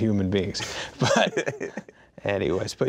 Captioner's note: laughing